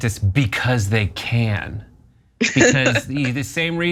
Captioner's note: laugh